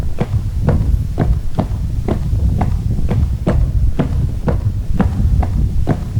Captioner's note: footsteps